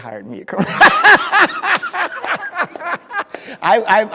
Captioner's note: speaker laughing